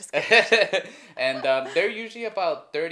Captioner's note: both laugh